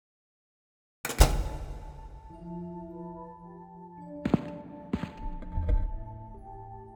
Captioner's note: door locks; uneasy music